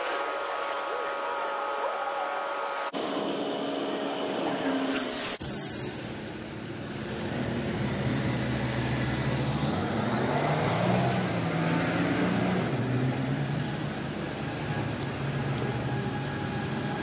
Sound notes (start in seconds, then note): none